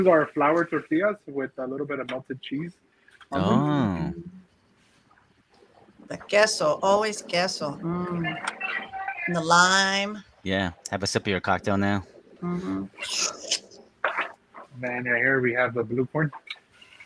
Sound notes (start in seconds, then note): 6.6 speaking in foreign language; 12.4 slurping